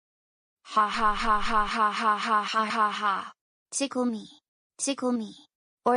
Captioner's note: laughs